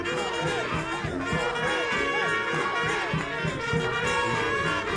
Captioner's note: crowd chanting "Go ahead, go ahead!"